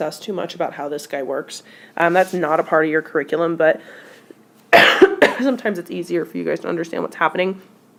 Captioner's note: cough